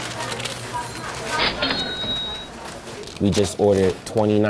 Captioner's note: ka-ching